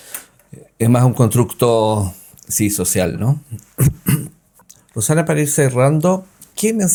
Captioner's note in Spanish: carraspeo